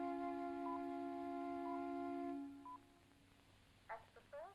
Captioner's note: beeping on other end of phone line; muffled automated voice on other end of phone line